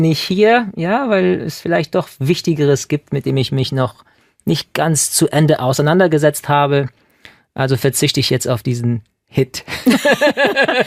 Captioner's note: laughing